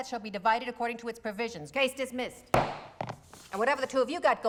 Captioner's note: pounds gavel